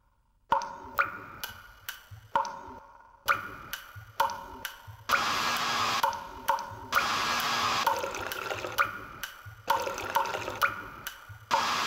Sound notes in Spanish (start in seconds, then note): 3.2 Sonido de luces se incluye con ritmo; 7.0 Sonido de Secador agrega un nuevo ritmo